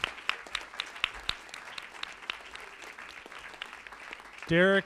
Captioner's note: audience applauds